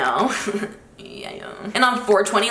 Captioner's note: chuckles